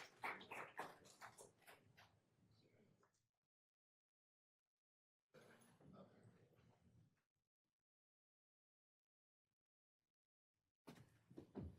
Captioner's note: applause